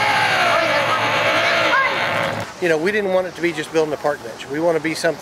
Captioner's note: drilling